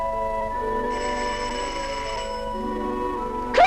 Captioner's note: door Bell